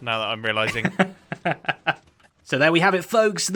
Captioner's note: laughs